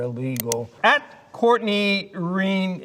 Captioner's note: mouse clicking